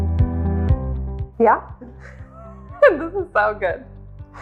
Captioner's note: laughs